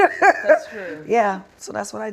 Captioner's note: laughing